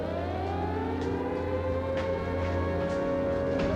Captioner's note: siren wails